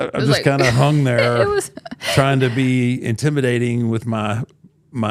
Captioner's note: laughs